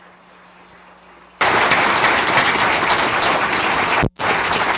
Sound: applause

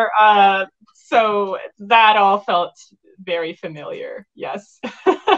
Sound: laughs

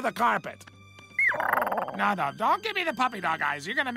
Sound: Perry makes the saddest platypus sound ever

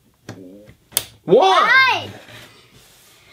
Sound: voiceover

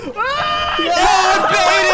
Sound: yells

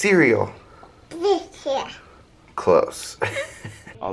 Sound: baby talk

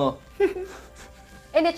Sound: chuckling

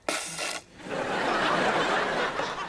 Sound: laughing

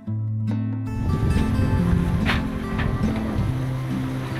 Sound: wind

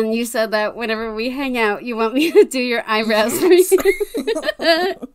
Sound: laughs

